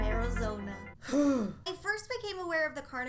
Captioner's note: grunting sound